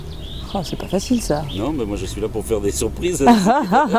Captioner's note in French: rires